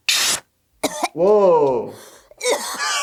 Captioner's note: Bart coughs